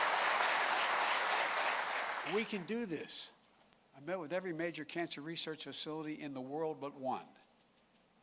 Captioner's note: applause